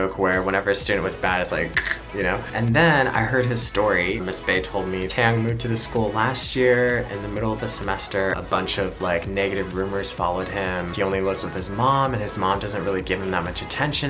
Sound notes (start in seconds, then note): 1.7 imitation of neck snapping